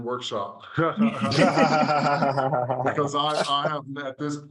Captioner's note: laughing